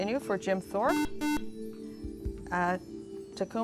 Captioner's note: buzzer